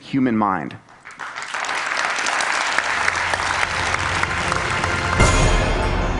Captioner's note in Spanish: Aplausos